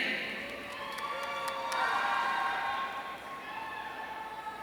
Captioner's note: audience cheering